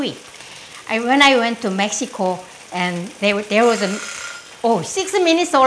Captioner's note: timer goes off